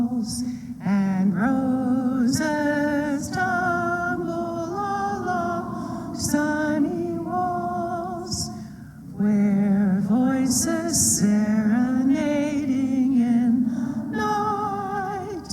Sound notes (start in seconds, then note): none